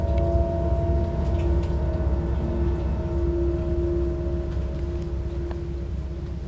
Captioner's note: water trickling; tense, dramatic music